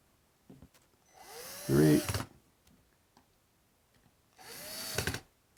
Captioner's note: screw driver whirling